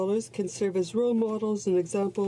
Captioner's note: speaking French